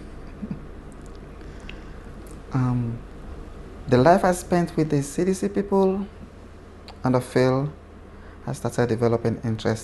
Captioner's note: laughs